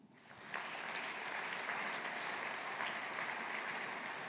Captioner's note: audience applauding